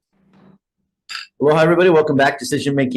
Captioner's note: gavel knocks